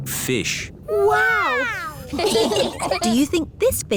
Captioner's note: laughing